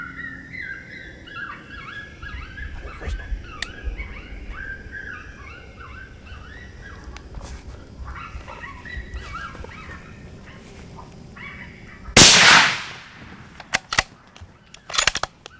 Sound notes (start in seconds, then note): 12.2 gunshot